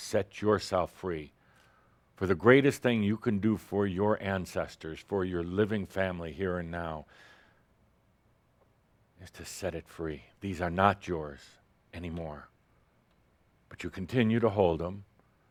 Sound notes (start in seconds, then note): none